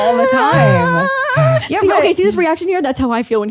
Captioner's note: whimpers; breathes deeply